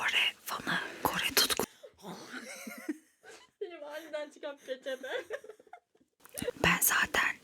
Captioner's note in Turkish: kahkaha